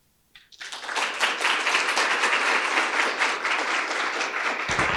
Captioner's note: audience applauds